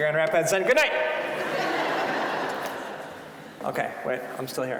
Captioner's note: audience laughing